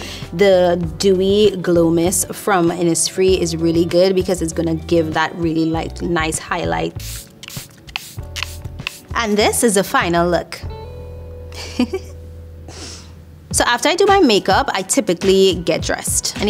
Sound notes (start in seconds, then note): 6.9 atomizer spraying; 11.5 chuckling